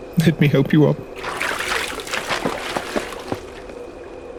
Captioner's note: splashes